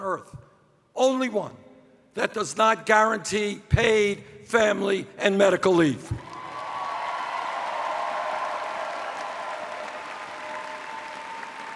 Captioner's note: cheers